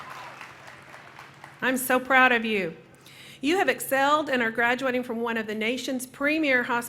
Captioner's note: cheering